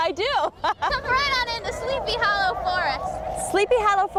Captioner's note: wind whistling; laughs